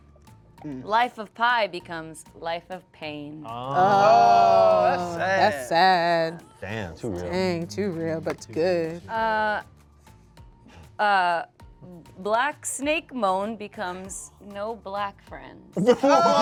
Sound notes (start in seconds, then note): 3.7 cast exclaims